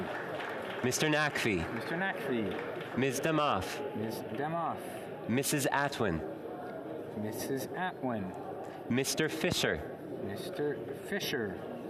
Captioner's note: calling of recorded vote